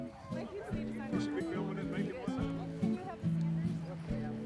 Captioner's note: people chattering